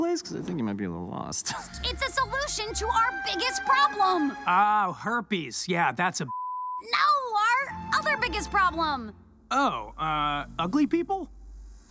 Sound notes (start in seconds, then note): 6.2 beep